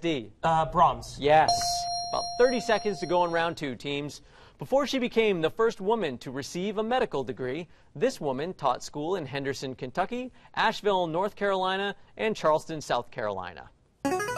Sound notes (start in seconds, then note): 1.4 ding; 13.1 buzzer plays